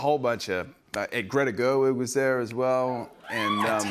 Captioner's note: cheering